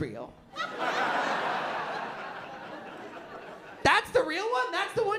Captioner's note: laughter